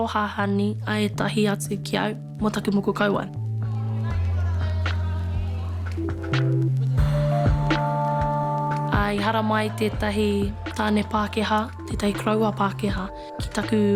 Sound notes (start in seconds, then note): 4.3 group chatters